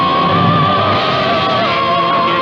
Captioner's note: crash!